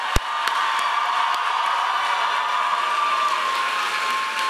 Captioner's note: audience cheering loudly